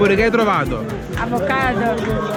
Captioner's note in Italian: Applauso